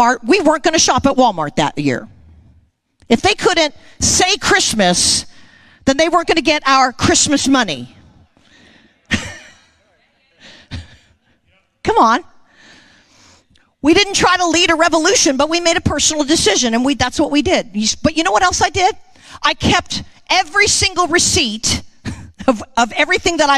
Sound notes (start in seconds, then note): 9.0 laughing